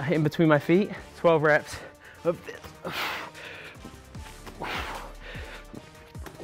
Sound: Gregg grunts

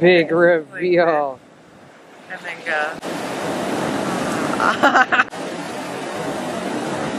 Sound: laughter

